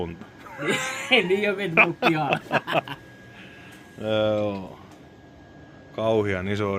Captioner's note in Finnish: naurua